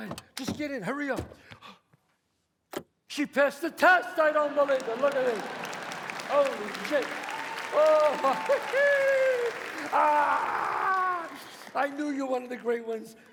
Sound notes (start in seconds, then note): 0.0 door opens; 2.3 door closes; 5.3 audience applauds